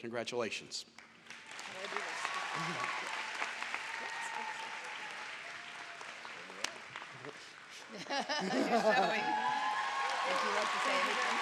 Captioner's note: applause